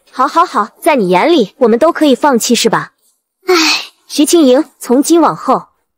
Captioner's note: sigh